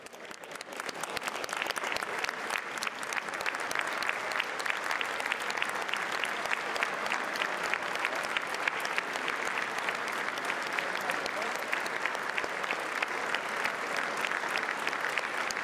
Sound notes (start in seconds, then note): 3.3 applause